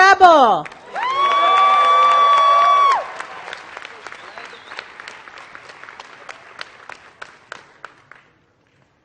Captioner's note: applause